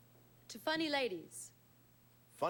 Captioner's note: none